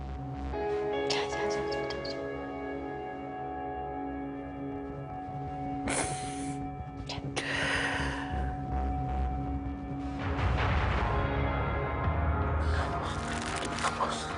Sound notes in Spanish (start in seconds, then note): 6.4 Sollozos